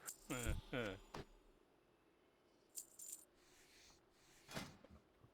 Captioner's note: laughter